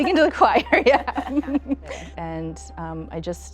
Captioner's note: all chuckling